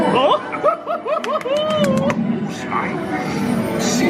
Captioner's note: cackles; applauding; twinkling music